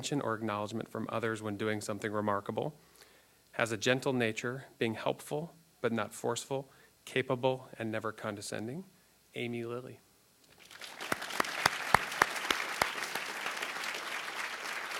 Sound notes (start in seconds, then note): 10.5 applause